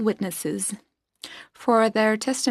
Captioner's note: speaking French